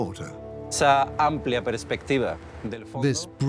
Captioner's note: speaks in Spanish